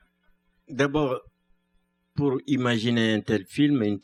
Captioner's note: speaking french